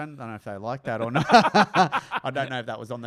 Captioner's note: laughs